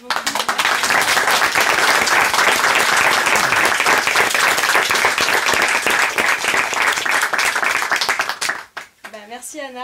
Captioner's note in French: applaudissements